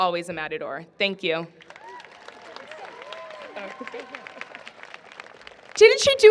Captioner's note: applause